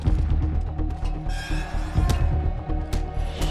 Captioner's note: metal creaks